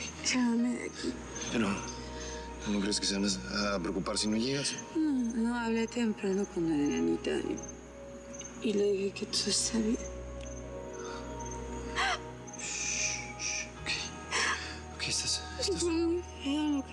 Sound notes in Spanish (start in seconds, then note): 11.9 sollozos